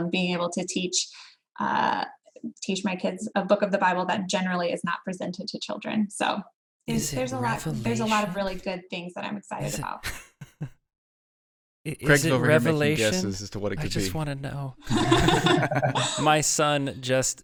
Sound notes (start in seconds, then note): 14.8 laughs